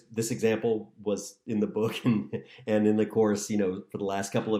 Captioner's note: laughter